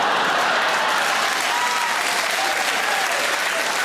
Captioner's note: audience laughs and claps